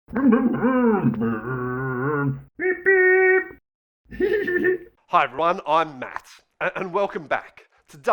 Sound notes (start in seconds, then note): 0.1 Scruff makes scooter noises; 4.1 Scruff laughs